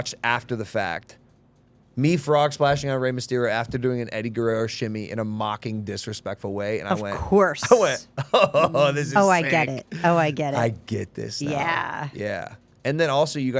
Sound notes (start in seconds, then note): 7.6 laughing